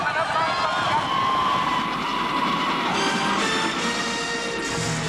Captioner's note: kereta menderu dan gemerincing